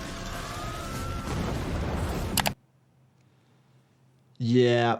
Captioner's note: flames flickering; explosion blasting